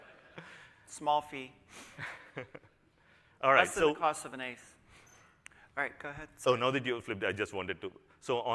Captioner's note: laughter